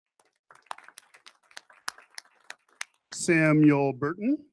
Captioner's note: audience applauding